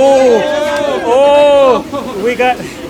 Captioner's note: crowd yells